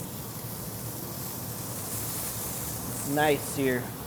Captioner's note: sizzling